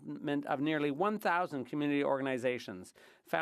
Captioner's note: speaking French